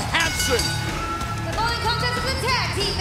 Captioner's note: bell ringing